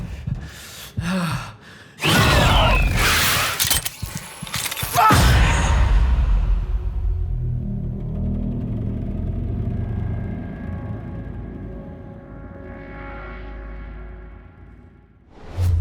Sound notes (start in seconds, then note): 1.0 panting; 3.4 clicks; 8.7 ominous rumbling